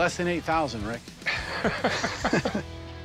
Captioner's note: chuckling